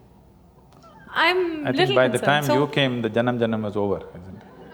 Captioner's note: laughter